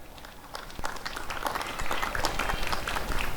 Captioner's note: applause and cheering